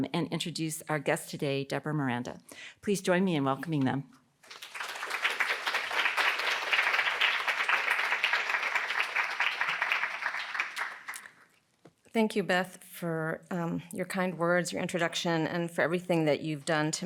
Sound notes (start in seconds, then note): 4.4 students clapping